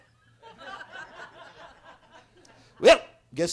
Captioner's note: attendees laughing